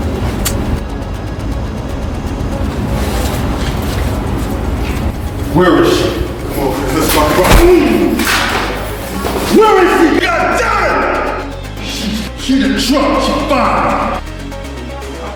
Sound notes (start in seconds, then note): 0.2 gun clicks; 7.1 Don groans; 7.3 gun thuds